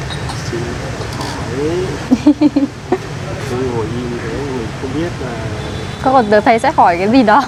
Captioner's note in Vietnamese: tiếng cười